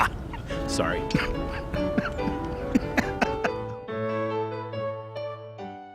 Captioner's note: laughs evilly; laughs